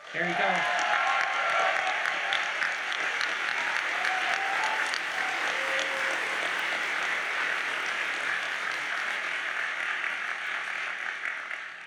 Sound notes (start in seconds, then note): 1.2 audience cheers and applauds